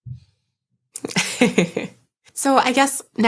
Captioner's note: laughing